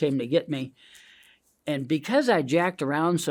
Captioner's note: hand scratching